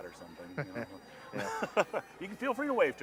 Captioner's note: both chuckling